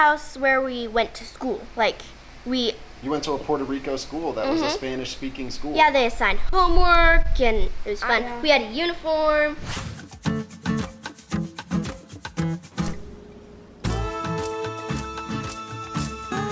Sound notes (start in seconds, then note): 9.4 upbeat music; 9.4 wooshing